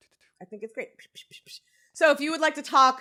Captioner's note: imitates smacking air